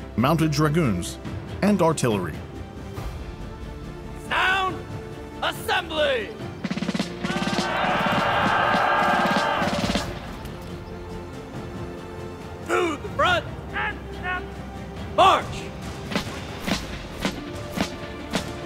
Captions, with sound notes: mounted dragoons and artillery. - Sound assembly! (drum rolls) (soldiers yell) - To the front. - Eyes left. - March. (drum rolls)